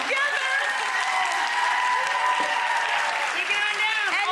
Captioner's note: audience cheering